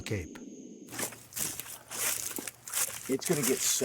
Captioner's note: feet treading